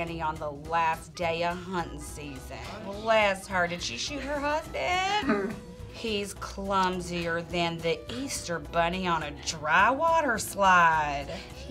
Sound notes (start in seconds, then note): 5.0 laughing